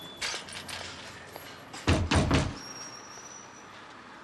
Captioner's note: banging